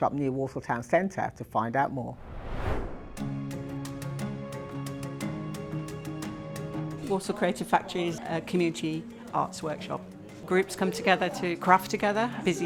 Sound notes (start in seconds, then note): 2.1 screen swooshing; 3.1 upbeat music